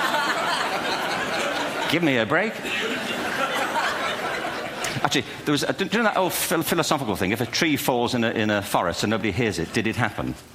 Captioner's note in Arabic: ضحك